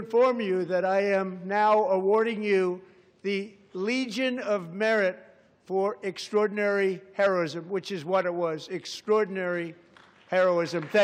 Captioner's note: applause